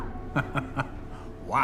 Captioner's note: laughs